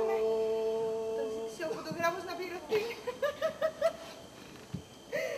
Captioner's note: γέλιο